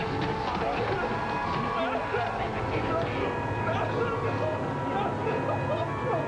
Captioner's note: screaming